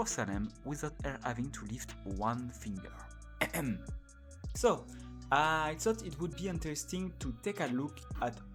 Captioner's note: cough